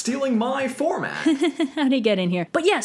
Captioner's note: laughing awkwardly